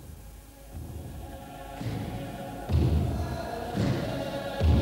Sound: chanting

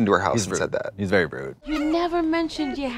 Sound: cat miaowing

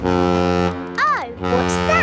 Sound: horn bellowing

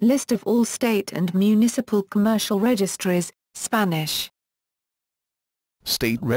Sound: Spanish

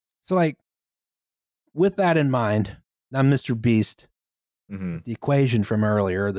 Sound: none

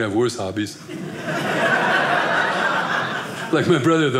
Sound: audience laughing

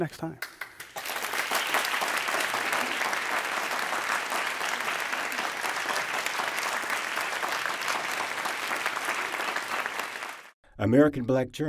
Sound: applause

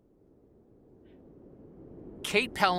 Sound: wind whistling

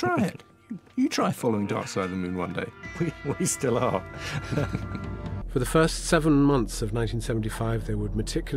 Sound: chuckling

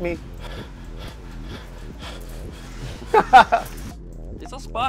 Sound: heavy breathing; laughter

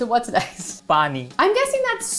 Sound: speaking in Hindi

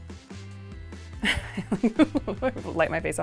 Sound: Natalie laughs

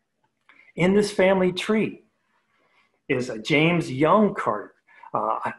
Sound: murmurs

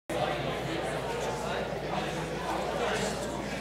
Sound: audience murmuring

